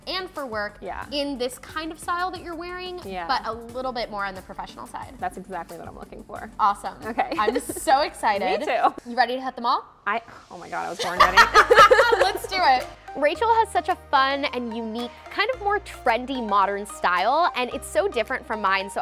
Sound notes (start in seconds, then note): 11.0 both laughing